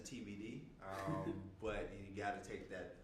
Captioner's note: laughing